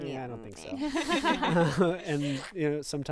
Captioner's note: group laughing